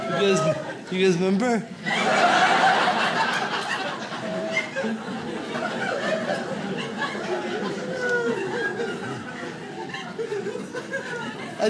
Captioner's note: audience laughs